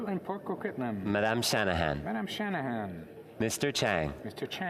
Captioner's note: speaking French